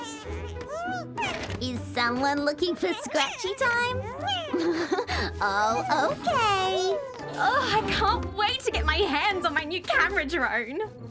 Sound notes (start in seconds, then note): 4.3 giggles